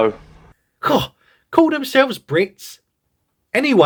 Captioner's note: scoff